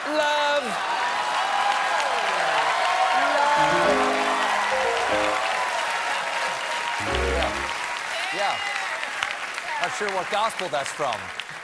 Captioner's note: cheers and applause